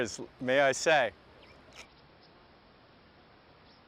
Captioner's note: water running